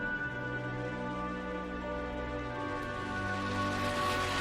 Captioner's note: car engine rumbling